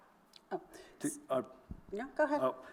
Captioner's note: stammers